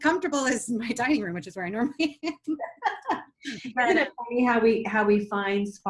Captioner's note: laughs